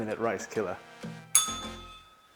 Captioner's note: bell rings